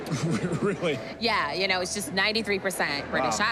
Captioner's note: chuckling